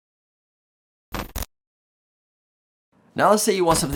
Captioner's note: static crackling